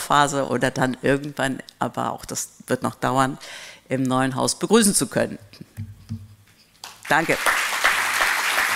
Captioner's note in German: applaus